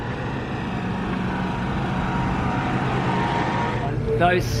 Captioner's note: vehicle engines hum